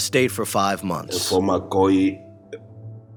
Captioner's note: speaking Spanish